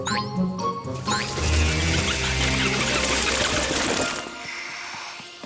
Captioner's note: flapping wings